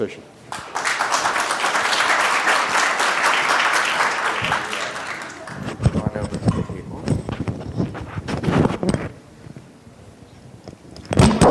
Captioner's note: applause